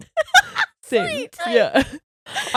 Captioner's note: chuckles; laughing; high pitched voice